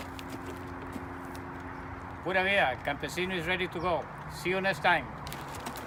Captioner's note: horse trotting